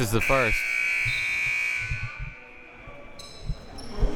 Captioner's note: buzzer